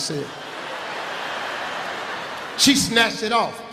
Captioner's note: laughing